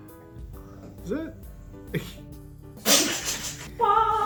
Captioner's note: laugh